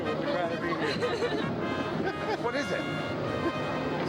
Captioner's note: laughing